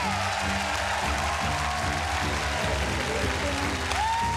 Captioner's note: cheers and applause